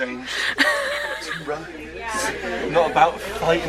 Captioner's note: laughs